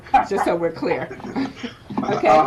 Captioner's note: laughs